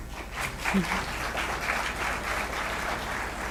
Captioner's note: applause